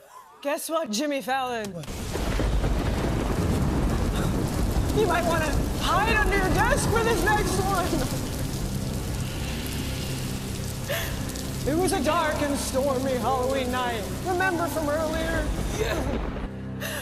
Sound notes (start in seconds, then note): 1.8 thunder crashes, rain falling